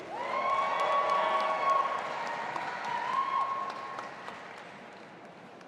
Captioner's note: audience applauding and cheering